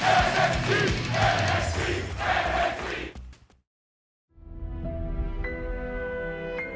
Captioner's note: crowd cheering